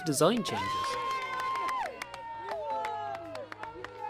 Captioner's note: cheering